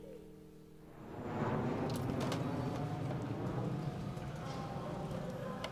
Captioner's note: airplane whooshing